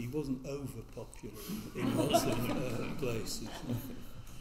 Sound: all laughing

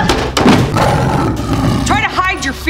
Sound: roaring

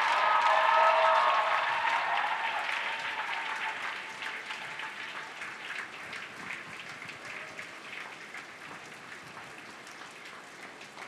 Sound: cheering and APPLAUSE

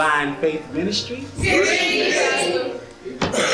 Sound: crowd

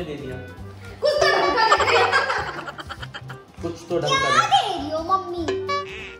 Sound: laughter

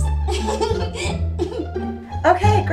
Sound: giggling

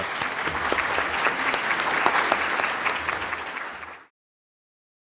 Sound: audience applause

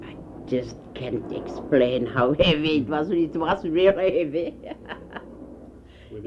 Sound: laughs

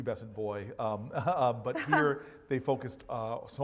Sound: laugh

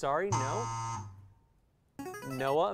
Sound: error buzzer; player buzzer

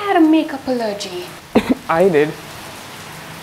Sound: cough

